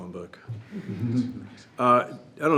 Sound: everyone laughs

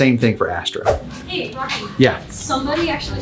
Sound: screen swooshes

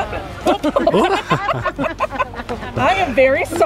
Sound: laughing

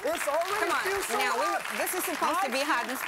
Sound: applause; crowd

